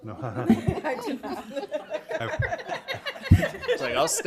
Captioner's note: members laughs